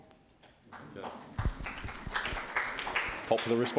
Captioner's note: audience applauding